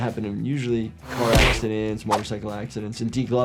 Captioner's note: car smacks